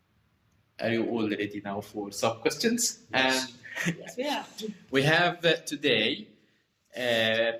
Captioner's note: laughs and positive answers